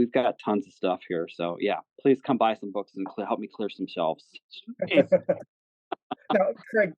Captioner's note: laugh